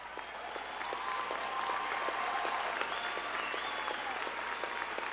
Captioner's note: crowd clapping and cheering